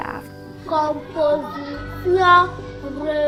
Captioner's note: non-english speech